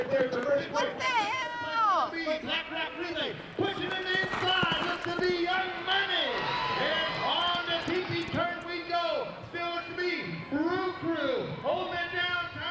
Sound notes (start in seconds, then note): 0.0 announcer calling race; 5.9 crowd cheering and applauding